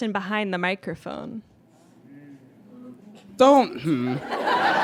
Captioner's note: audience murmurs; audience laughs